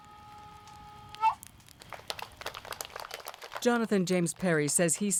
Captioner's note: audience applauding